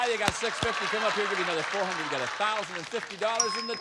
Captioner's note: applause